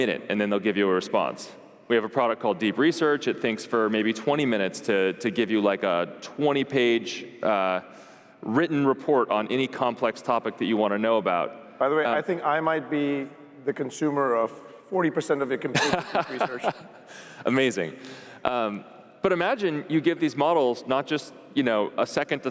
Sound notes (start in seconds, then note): 15.7 laughing